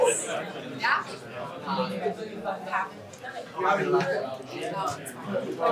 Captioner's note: indistinct chatter